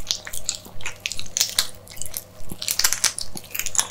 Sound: crunch

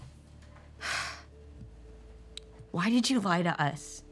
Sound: sighs

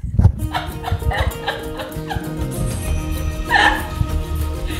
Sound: upbeat music; ladies laughing

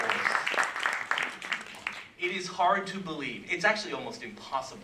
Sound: applause

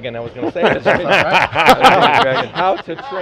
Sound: laughter

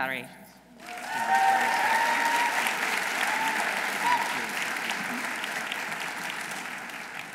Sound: audience applauding; audience cheering

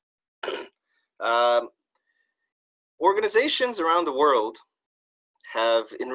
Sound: cough

